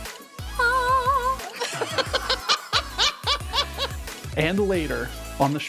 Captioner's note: all laughing